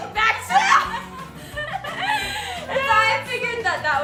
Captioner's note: yelling; laughs